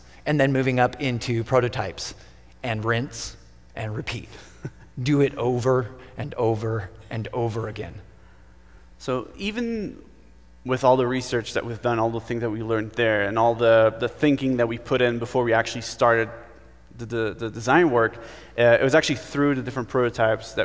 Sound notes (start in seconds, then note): 4.3 laughs